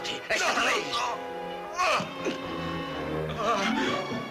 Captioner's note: yelling